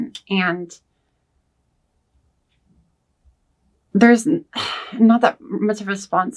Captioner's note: sighs